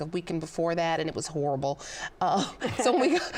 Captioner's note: laughs